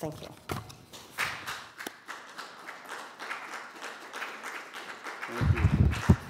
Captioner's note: applause